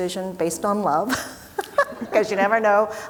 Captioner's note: laughing